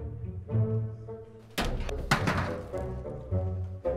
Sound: can clanks; music continues

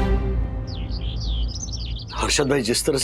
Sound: birds chirping

